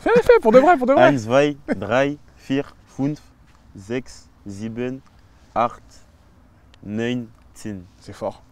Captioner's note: counts in German